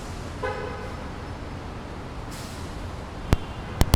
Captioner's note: car horn